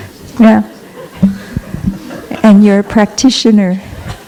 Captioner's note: laughter